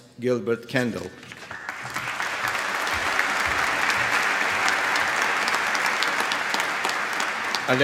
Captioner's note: applause